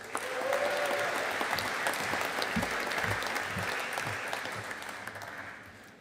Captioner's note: audience applauding